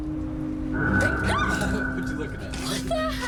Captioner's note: Jen screams